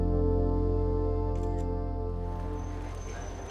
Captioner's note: phone camera snaps